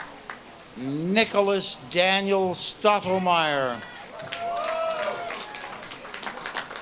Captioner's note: audience claps and cheers